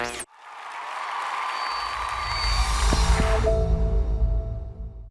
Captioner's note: cheers and applause